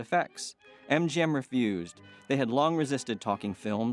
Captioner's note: people chattering